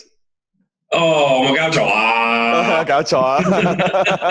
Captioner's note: both Speak Foreign Language; both laugh